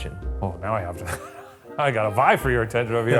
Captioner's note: chuckles